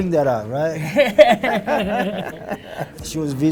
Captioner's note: laughing